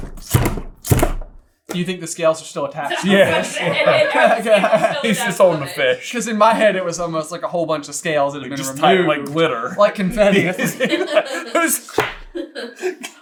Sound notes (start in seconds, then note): 2.8 laughter; 9.7 laughter